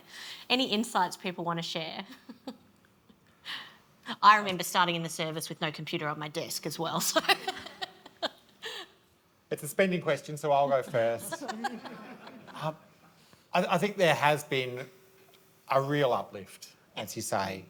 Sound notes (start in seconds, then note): 7.1 laughs; 10.7 audience laughs